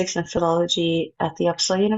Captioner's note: none